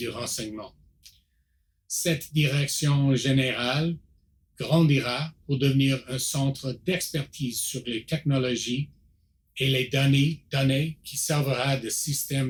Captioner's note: repeats in French